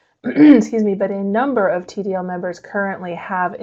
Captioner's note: clears throat